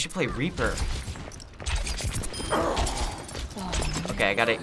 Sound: device beeps, character groans

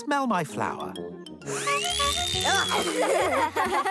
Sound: whirling noise; laughing

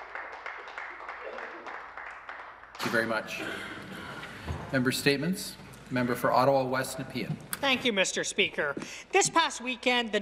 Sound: applause

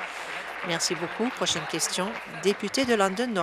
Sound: applause

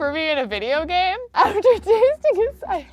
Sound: laughs

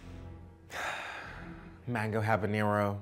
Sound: exhales

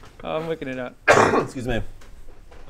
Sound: achoo

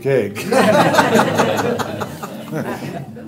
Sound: laughter

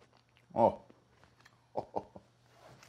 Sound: laughing

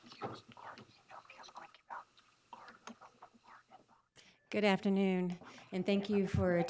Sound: presenters whispering off microphone

